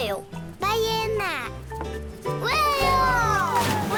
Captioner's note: speaking foreign language